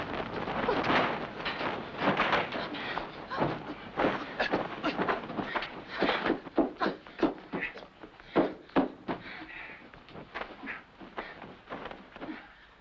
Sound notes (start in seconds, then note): 5.7 stomping